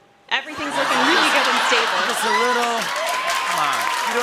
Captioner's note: laughter